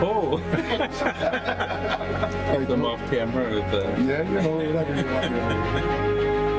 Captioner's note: laughter